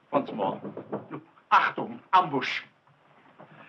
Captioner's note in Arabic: الصوت المنطوق باللغة الألمانية